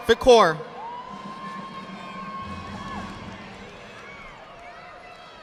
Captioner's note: audience applauding